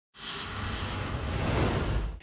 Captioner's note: swish